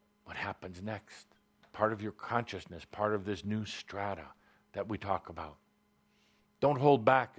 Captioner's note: none